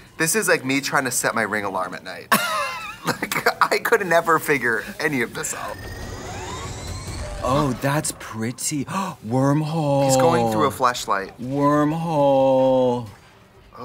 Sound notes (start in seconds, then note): 2.3 laughter; 5.2 intense music; 7.1 lasers shooting